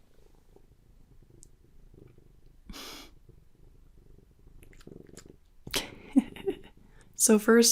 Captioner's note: soft car purrs and licks